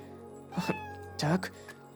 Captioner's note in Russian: Мяуканье Тигры